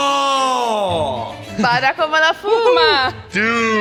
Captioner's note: speaks Italian